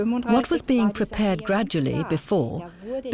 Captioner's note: speaking german